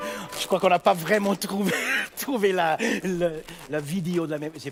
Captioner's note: speaking in French